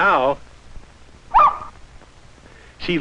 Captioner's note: barking